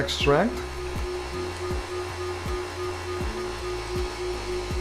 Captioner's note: blender whizzing